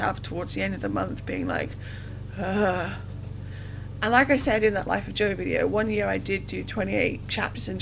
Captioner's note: deep sigh